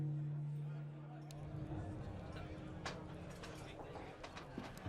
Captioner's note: patrons chattering